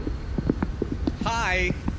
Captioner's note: footsteps approaching